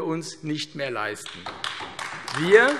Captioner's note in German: Beifall AfD